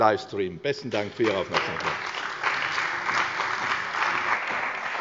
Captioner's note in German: Beifall bei der CDU und dem BÜNDNIS 90/DIE GRÜNEN